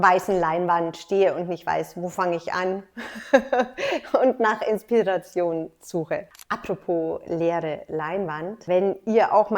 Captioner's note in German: lacht